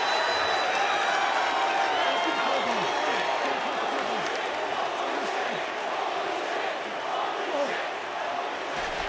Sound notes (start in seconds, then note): 2.9 chants "holy shit"